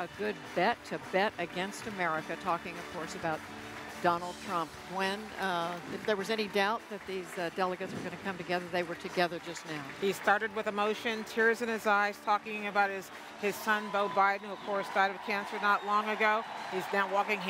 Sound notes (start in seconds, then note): 10.7 cheering